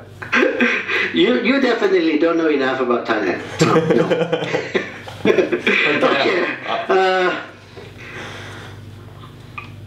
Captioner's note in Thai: หัวเราะ